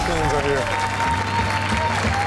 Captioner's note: crowd cheers; rock music plays